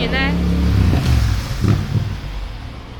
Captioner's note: car noise